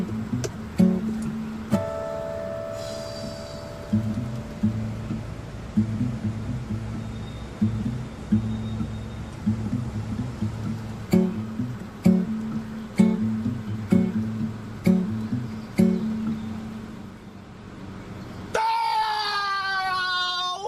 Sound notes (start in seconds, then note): 2.7 deep exhales; 11.1 punchy acoustic guitar; 18.6 enraged shouting